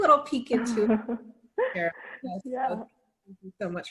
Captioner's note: chuckles